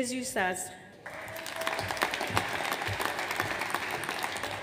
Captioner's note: audience applauds